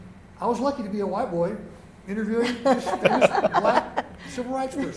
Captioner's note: laughter